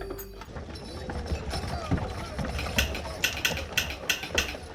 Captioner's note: horse hooves clopping; people chattering; telegraph machine clicking